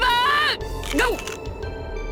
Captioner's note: chomp